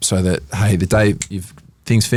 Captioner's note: finger snaps